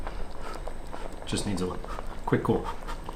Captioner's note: air blowing